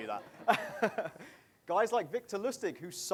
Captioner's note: laughing